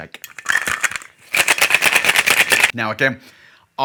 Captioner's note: cocktail shaker clinking